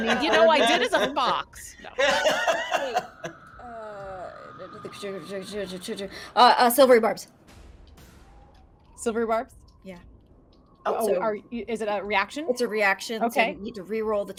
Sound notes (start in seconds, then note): 1.9 laughs; 4.0 bird shrieks loudly; 6.6 sputters